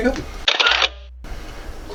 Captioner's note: camera flash click